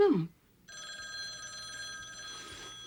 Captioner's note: telephone ringing